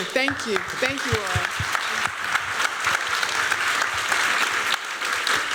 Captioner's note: applause